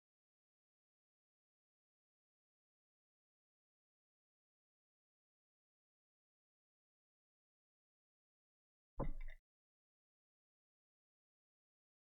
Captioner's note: silence